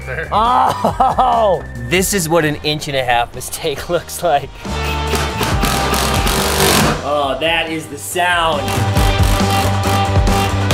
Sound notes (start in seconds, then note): 0.1 laughing; 4.5 drilling; 8.6 energetic music